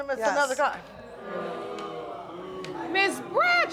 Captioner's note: audience booing